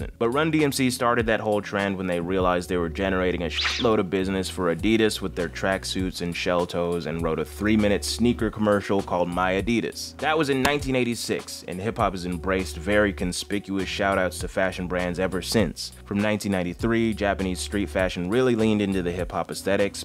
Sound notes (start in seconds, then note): 3.6 beep